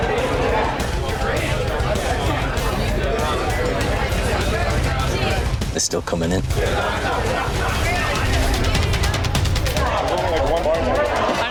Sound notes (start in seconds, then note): 0.0 customers continue chattering loudly; 8.8 dramatic music